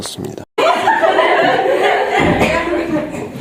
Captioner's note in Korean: 웃고 잇음